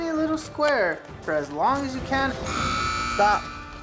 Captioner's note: buzzer sound